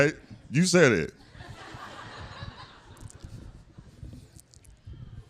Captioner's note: laughter